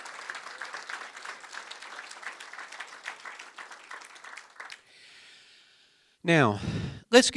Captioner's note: applause